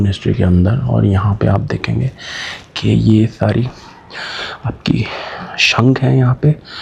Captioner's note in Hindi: गहरी सांस लेने की आवाज़